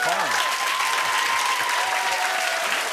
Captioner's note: cheers and applause